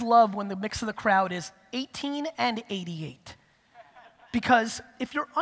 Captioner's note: audience laughter